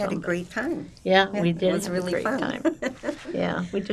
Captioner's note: laughing